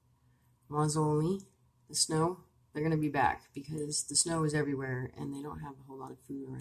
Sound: speaking Abenaki Language

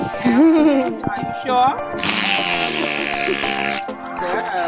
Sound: dolphin makes raspberry noise

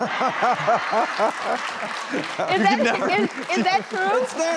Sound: audience clapping; laughs

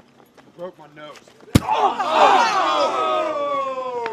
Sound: blow thuds; crowd groaning

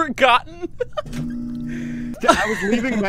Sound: laughing; laughter

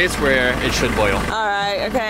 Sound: none

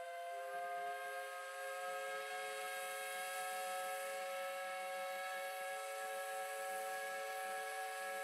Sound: steam whistle blows

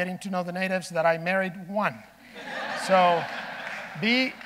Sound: audience laughing

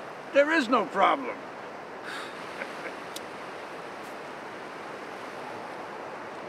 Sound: laughs

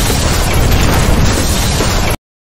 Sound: intense rock music at double speed; two overlapping loud crashes; loud crash

